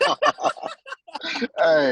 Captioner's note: laughter